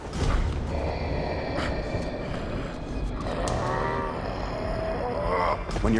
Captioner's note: Thoran breathing heavily